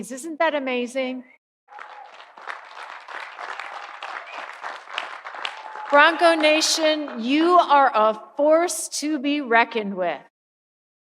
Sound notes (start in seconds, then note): 1.7 audience applauding; 1.7 audience cheering